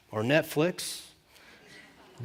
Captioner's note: laughter